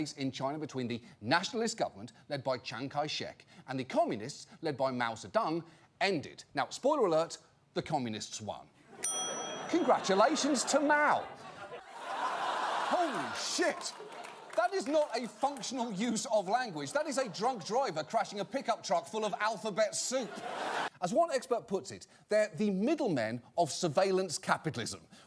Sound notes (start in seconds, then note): 9.5 audience laughter